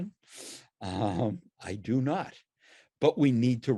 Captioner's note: laughs